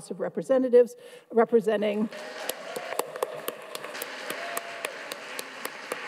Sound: everyone applauds

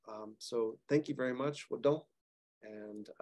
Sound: speaking Cherokee

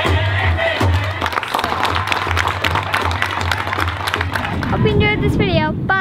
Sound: applause

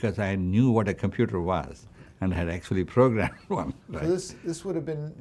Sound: laughs

